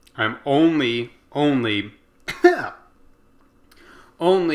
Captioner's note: cough